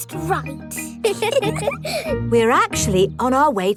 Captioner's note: both giggle